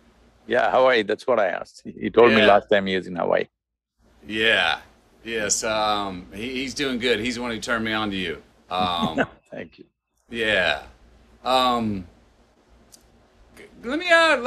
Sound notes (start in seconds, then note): 8.7 laughs